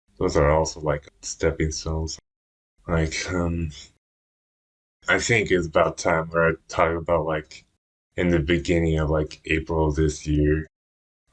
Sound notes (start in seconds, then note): none